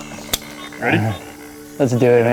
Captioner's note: birds chirping; metal clicks